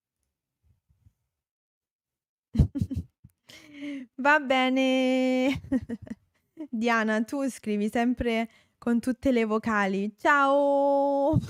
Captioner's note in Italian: risate